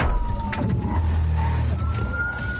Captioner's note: thuds